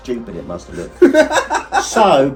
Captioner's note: laughing